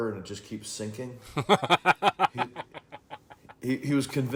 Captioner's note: laughing